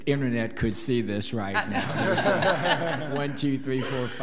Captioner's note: laughing